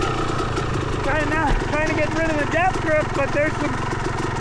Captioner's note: engine roaring